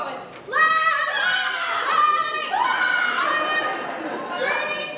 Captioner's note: performers screams